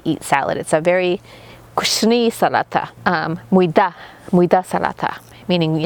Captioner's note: speaking foreign language